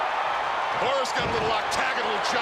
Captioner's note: crowd cheering